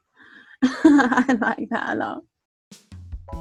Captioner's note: laughing